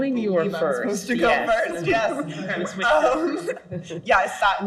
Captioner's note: laughs